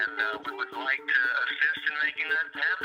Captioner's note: on phone